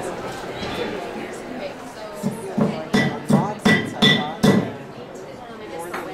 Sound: hammering sound

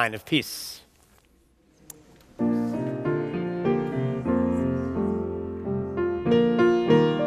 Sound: congregation murmuring; soft piano music

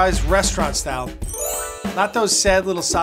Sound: chimes ring

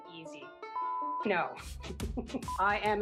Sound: chuckles

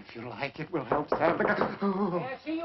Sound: knocking

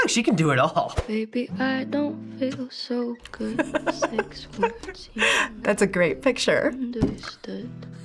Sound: chuckles

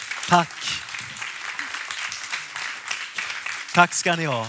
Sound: applåder

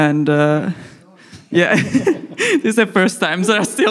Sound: laughs

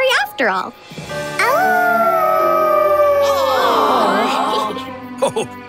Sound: howling

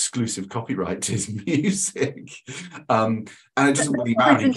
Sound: laughs

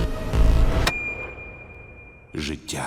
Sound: high-pitched ringing; man, echoing

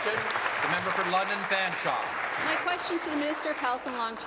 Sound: applause

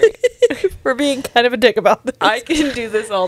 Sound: laughs

